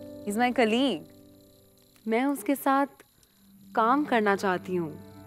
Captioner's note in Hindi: none